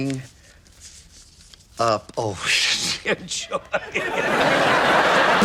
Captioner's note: chuckles; audience laughs